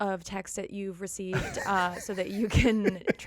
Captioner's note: laughing